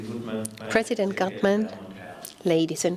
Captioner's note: voiceover